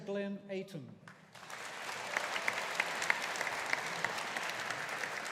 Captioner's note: audience applauding